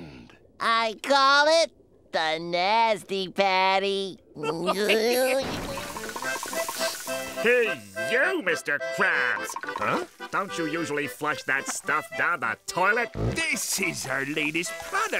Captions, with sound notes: I call it the "Nasty Patty". [giggling] [sniffing] Pee-yew, Mr. Krabs! Huh? Don't you usually flush that stuff down the toilet? This is our latest product!